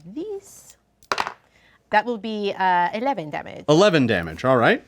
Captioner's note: dice roll